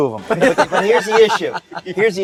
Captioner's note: laughter